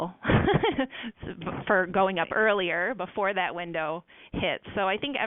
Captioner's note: laughs